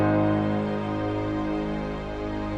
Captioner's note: none